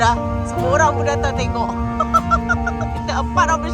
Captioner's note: laugh